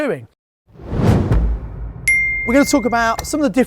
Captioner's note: whooshing sound